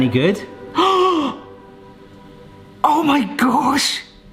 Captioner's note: gasping